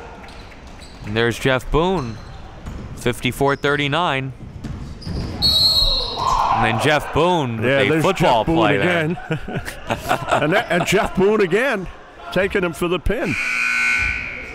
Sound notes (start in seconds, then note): 5.4 whistle blows; 6.1 cheering and yelling; 7.8 laughing; 13.2 buzzer dings